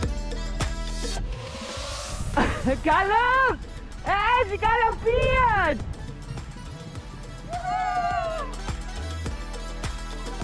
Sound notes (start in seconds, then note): 2.3 laughing; 7.4 she cheers